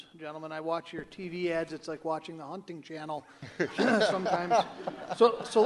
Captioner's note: candidates laugh